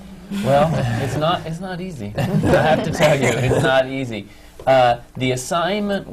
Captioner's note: laughter